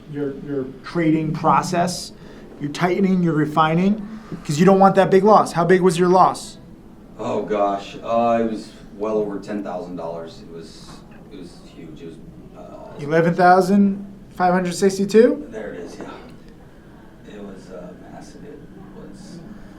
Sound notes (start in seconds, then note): 12.6 groans